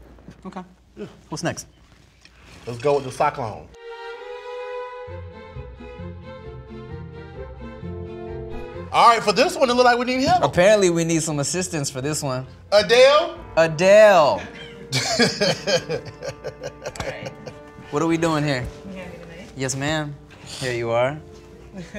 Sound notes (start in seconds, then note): 4.9 upbeat music; 14.4 laughs